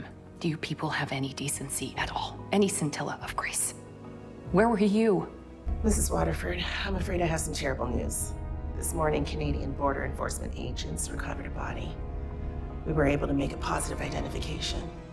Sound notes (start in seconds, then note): 6.1 voiceover